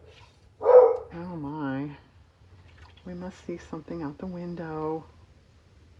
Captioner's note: dog barks